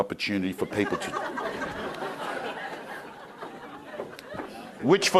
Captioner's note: crowd laughing